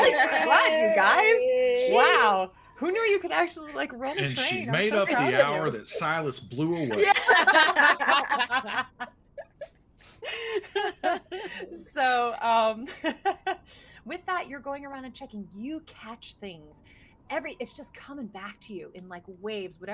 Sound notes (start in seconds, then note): 7.3 ladies laughing